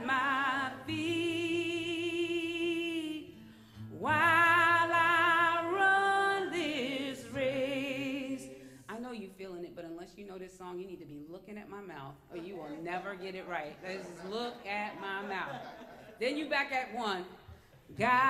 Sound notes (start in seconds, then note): 15.6 laughter